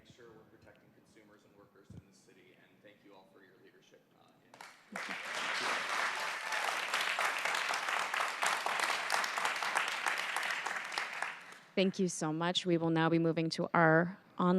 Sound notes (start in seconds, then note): 8.2 applause